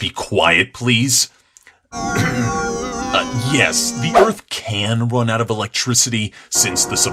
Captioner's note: clears throat